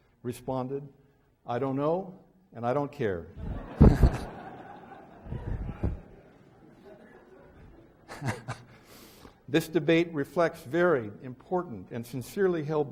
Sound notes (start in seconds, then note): 3.4 laughs